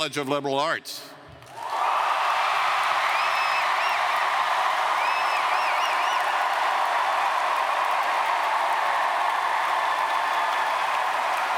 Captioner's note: cheers & Applause